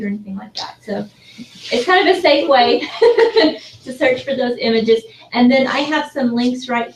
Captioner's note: laugh